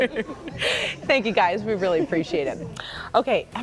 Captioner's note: laughter